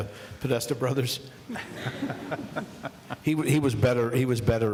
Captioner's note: laughing